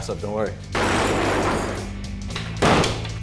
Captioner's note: banging and smashing